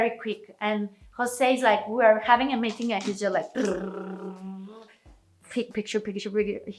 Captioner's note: blows raspberry